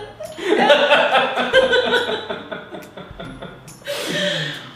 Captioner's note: both laughing